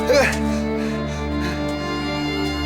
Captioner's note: panting